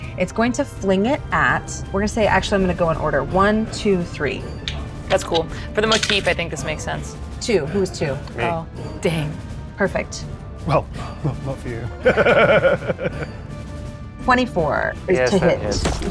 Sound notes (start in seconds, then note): 11.8 chuckles